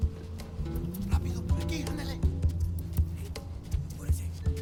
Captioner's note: Spanish spoken audio